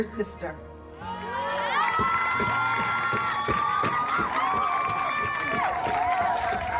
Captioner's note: group cheering; drums beating